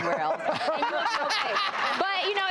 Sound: laughing

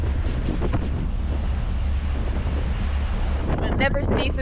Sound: wind blowing strongly

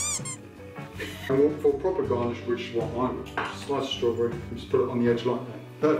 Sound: laughing; squeaky toy sound

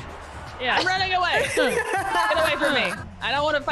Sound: laugh

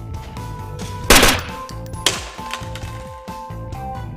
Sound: gun firing

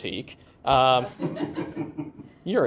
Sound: laughter

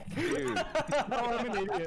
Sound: laughter

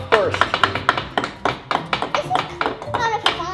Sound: hammer tapping

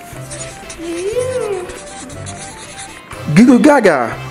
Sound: coloring scratching

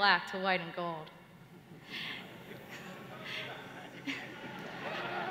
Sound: laughter

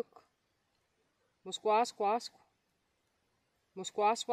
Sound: Speaking Abenaki Indigenous Language

